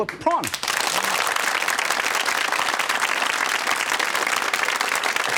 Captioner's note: audience clapping